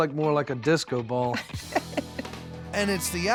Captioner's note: laughs